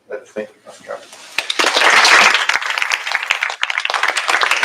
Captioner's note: applause